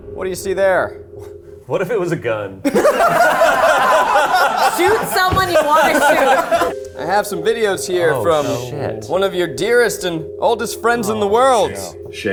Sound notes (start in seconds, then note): 2.6 all laughing